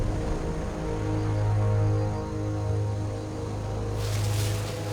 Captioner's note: jungle sounds